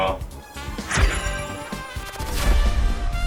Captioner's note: interupted by arrow noise